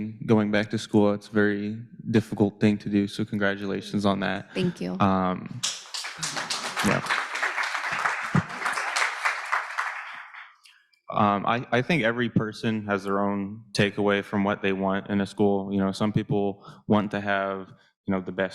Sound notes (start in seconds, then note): 5.6 audience clapping